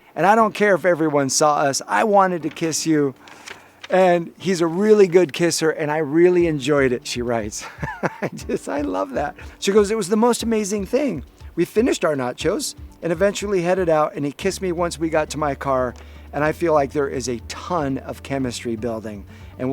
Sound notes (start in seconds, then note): 7.6 laughs